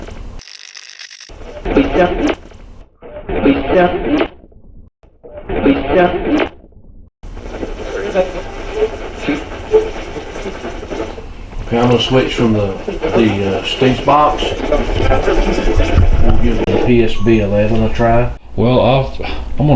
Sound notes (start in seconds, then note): 0.6 radio scratching; 3.1 radio voice; 8.2 radio channel changing